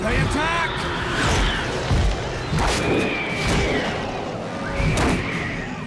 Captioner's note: creatures screeching